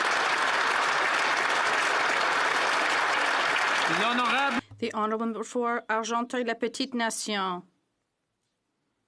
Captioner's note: applause